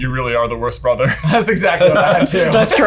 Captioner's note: laughs